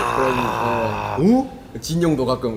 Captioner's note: wooooow